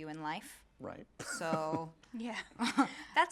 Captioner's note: laughs